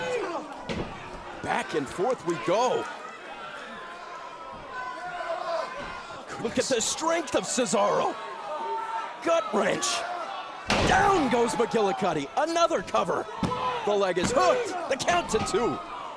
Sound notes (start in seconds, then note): 2.2 crowd chatter